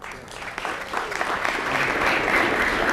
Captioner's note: applause